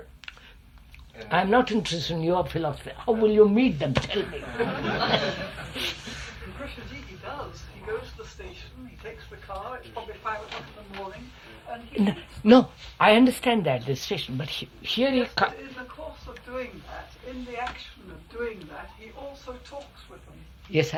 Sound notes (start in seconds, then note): 4.2 laughter